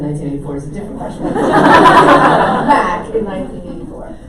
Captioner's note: audience laughs